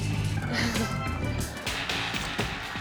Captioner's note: chuckles